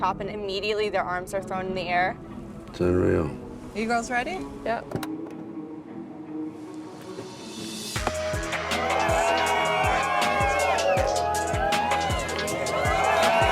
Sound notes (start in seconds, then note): 5.4 solemn music; 8.0 crowd applauding and cheering